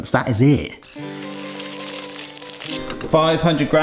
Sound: macaroni tinkling

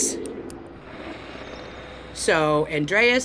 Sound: static

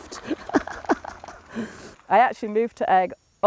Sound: laughs

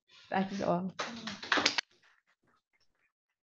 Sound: audience applauding

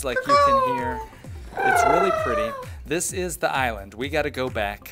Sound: natural bird sounds

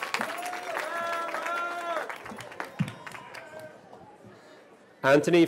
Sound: cheering

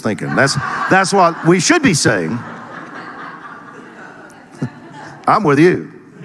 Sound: audience laughing

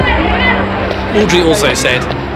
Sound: people shouting; suspenseful music

